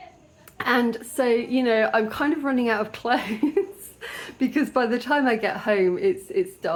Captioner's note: laughter